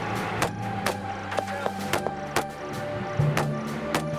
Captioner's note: gunshots